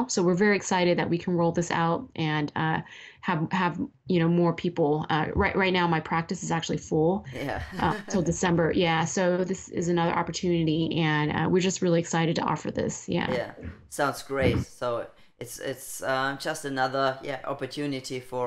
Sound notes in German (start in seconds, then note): 7.3 laughing